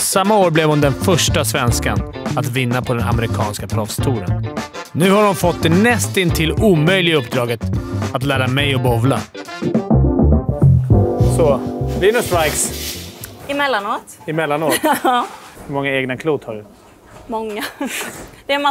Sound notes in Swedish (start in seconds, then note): 14.6 skratt